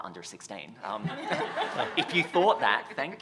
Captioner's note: laughter